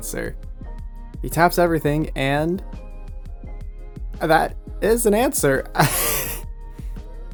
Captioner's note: laughs